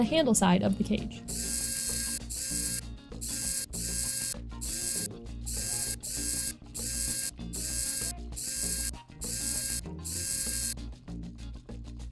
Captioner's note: wow Sick Screw Noises